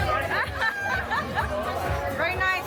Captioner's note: laughing